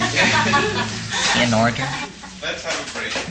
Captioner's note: audience laughter, clapping